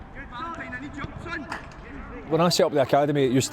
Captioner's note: man yelling